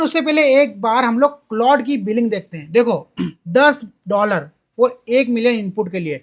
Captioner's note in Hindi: गला साफ़ करने की आवाज़